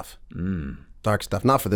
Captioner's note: grunts